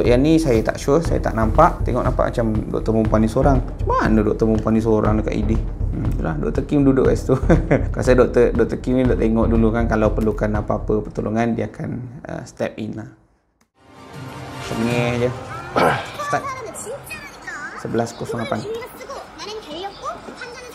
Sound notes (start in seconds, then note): 5.5 high pitch voice